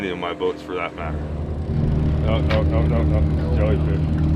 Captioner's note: boat enging running